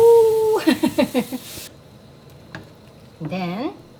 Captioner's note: laughing